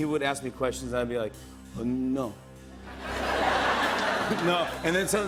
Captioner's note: laughter